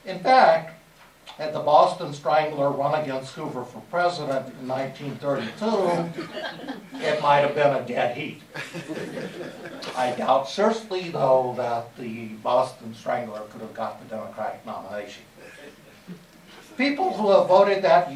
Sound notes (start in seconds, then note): 8.5 laughter